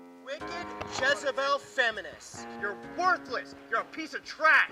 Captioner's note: voiceover